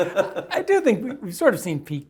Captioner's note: laugh